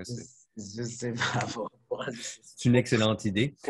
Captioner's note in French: rire